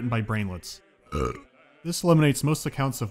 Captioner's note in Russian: рыгает